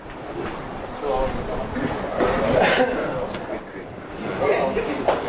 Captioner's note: people gently murmuring